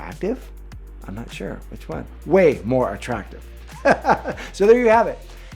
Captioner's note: laughs